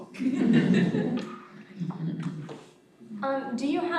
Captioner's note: audience chuckling